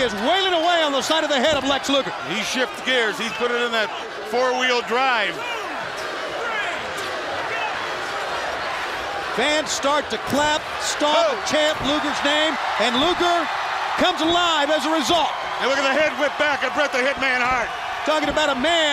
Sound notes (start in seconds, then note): 11.2 crowd cheering